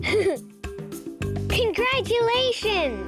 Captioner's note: giggles